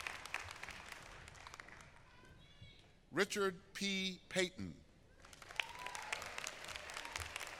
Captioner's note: applause